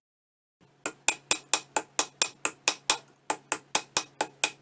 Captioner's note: hammer tapping